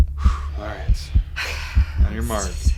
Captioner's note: breath exhales; breath exhaling